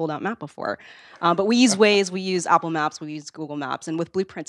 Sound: laugh

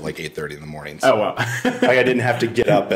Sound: laughs

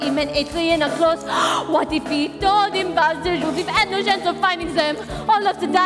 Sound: gasp

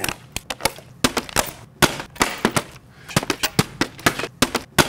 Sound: bottle thudding

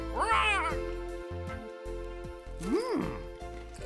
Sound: squawking

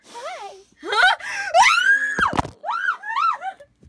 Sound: screaming

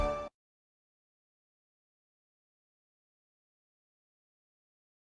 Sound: upbeat orchestral music; silence

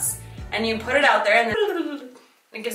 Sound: speaks gibberish

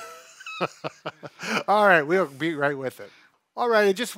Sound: laughs

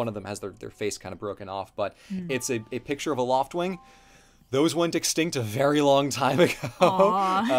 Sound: laughs

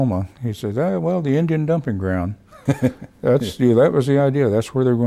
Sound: laughs

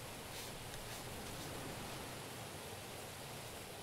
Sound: waves crashing

